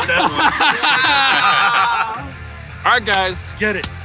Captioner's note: everyone laughs